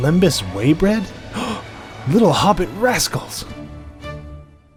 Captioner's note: gasp